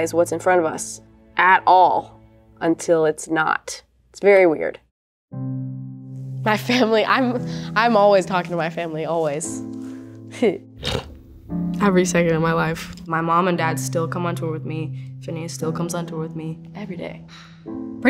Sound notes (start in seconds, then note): 10.8 scoffs